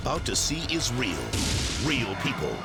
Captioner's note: car exploding